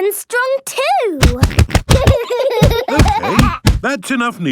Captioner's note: banging